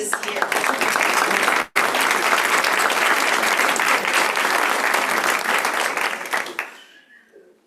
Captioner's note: applause